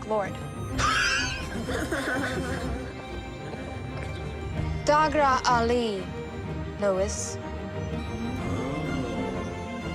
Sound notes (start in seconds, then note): 1.2 chuckles; 4.8 speaks in Elven